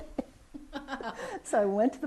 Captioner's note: laughs